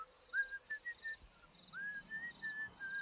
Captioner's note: owl hooting; Ted continues whistling